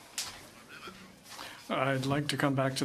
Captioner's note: speaking French